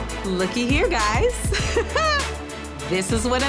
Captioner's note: laughing